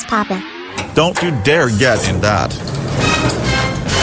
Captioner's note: elevator door closes; dramatic music sting